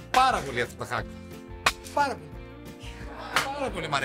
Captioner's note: laughs